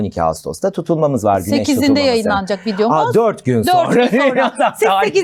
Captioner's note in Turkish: kahkaha